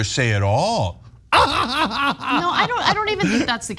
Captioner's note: laugh